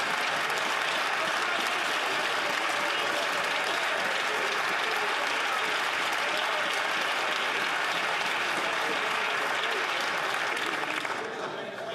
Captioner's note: cheers & Applause